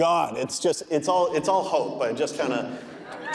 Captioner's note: audience laughing